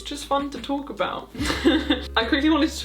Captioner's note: chuckles